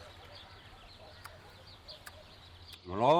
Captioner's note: grandpa chewing